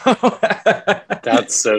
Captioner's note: laughs